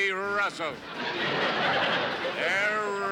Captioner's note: laughter